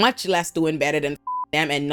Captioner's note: beep